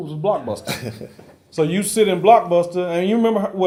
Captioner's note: laugh